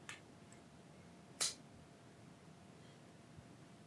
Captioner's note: lighter clicks